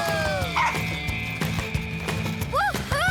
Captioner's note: champion barks